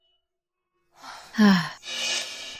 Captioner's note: sigh